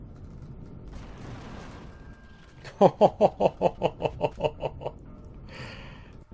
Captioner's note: turrets firing; laughs